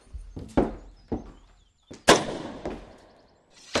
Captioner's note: gunshot